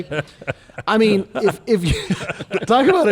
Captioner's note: laughs